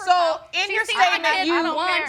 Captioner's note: none